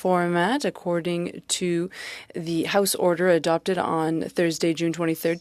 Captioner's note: speaking french